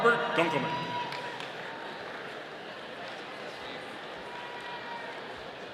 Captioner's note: audience applauding